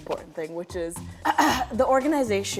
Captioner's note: clears throat